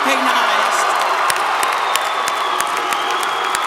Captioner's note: applause